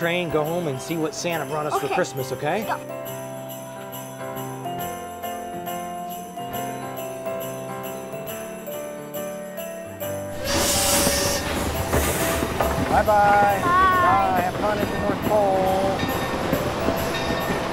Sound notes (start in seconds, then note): 5.1 gentle festive music; 10.3 train whistle